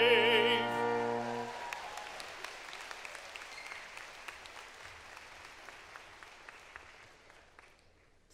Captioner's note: applause